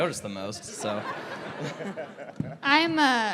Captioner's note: laughter